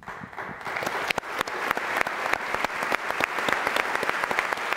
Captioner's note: audience applauds